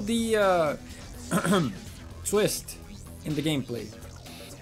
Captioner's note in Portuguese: Ahem